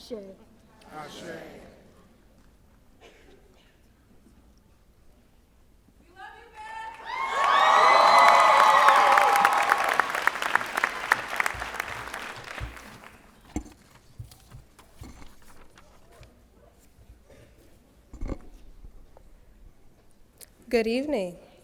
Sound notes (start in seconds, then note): 8.1 cheers and Applause